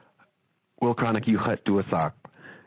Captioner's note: speaking Native language